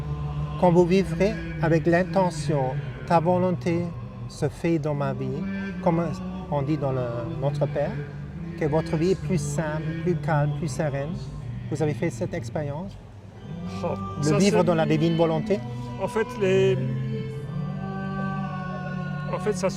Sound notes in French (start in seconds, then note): 4.1 chant